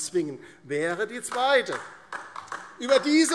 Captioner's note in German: Beifall DIE LINKE